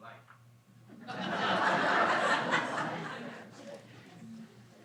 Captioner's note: audience laughs